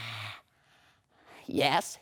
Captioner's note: Renfield exhales